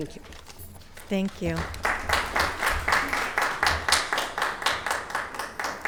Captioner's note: audience applauding